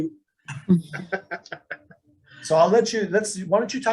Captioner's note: laughs